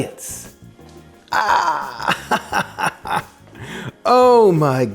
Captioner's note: chuckles